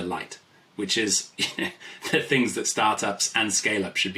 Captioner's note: laughs